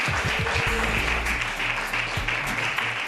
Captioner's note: applause